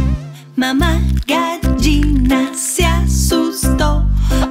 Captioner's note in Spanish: Sonido de gallina